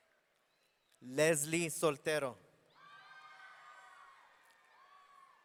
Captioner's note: audience cheering